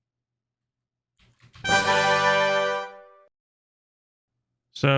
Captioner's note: "Tada" sound effect